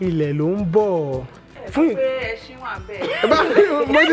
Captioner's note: laughs